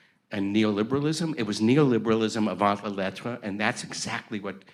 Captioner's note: speaks in foreign language